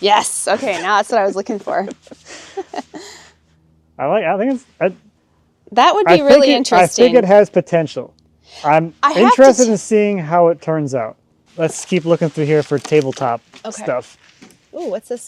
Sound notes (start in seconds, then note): 1.7 both chuckling